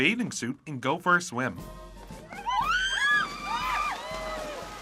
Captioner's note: screaming